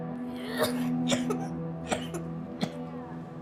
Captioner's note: child coughs